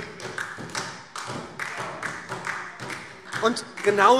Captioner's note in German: Beifall SPD